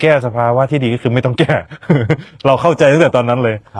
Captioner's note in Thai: เสียงหัวเราะ